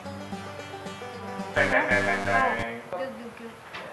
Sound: failure sounds

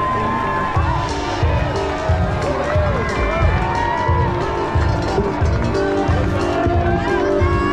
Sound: crowd cheering; upbeat music

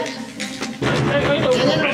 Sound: knocking

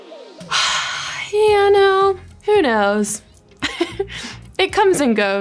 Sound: heavy sigh; giggles

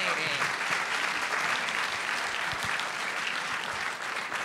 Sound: audience applauding

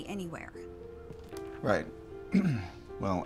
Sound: clears throat

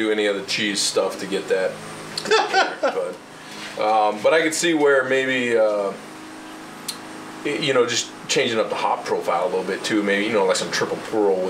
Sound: laughs

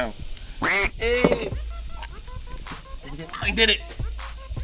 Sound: duck quacking

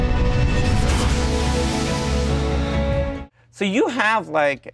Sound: metal scraping

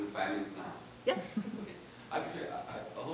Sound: class chuckling

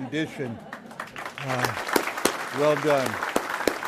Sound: audience applauds

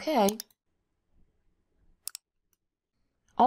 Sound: mouse clicks

